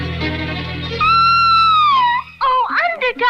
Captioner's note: Sweet Polly Purebred Screams